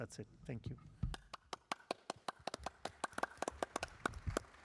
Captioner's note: applause